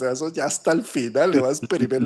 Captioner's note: laughs